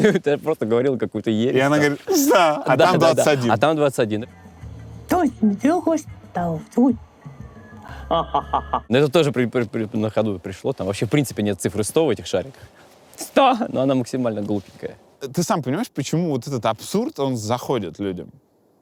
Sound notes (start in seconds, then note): 7.9 laughs